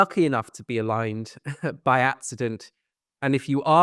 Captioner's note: chuckles